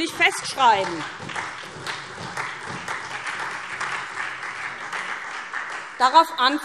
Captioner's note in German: Beifall SPD